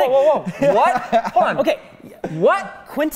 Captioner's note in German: Lachen